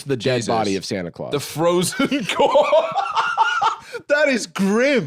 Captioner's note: laughs